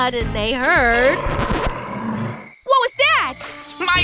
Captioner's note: growling